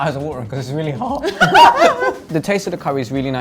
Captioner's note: laugh